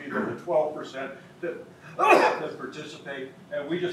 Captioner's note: sneezes